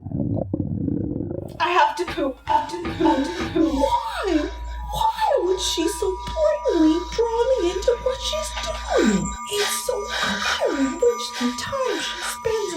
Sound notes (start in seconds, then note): 0.0 stomach growling